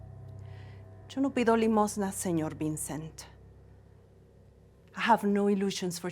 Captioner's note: speaks in Spanish